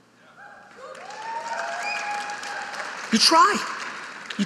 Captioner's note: audience applauding